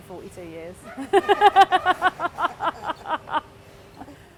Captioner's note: laughs